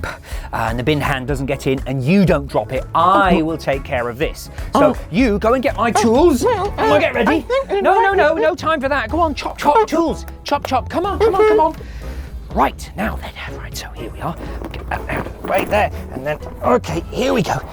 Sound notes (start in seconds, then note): 10.2 claps twice